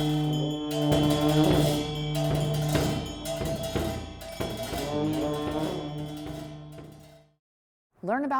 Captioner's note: tibetan monk chants; horn blowing